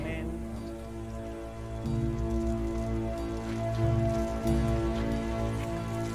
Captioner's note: Wasser plätschert